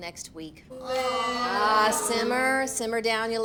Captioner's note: all exclaiming